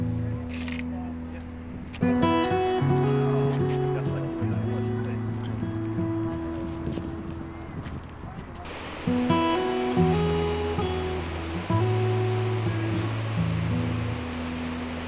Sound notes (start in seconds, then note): 8.6 acoustic guitar music; 8.6 water rushing